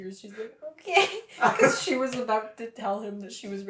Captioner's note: laughter